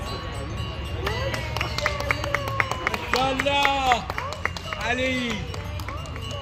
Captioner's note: visitors are cheering and clapping